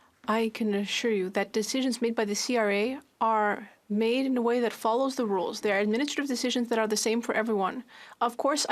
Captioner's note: speaking French